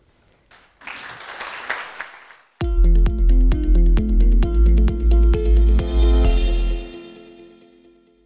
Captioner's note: applause